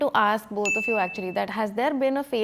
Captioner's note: bell chimes